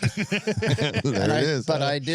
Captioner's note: laughing